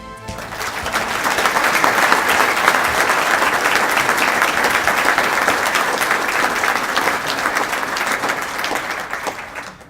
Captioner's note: applause